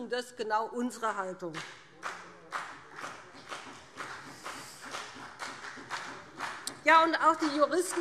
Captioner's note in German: Beifall BÜNDNIS 90/DIE GRÜNEN und vereinzelt CDU